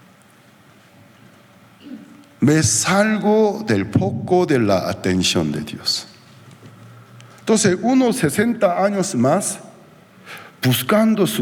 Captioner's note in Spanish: carraspeo